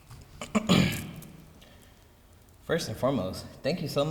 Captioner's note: clearing throat